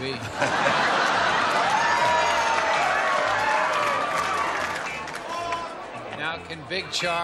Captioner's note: laughter